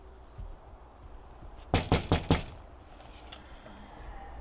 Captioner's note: door knocking